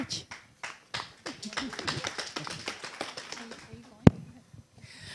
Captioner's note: audience applause